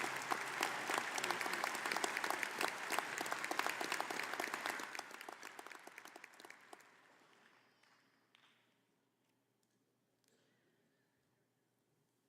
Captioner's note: applause